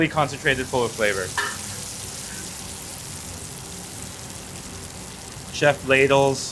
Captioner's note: food sizzles; spatula clangs